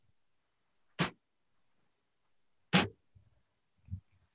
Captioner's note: none